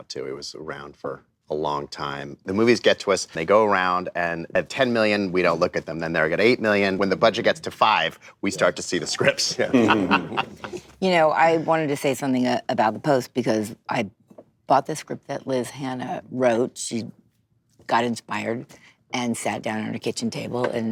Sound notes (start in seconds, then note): 9.0 laughter